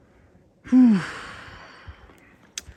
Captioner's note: sigh